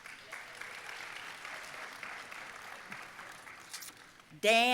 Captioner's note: audience applauding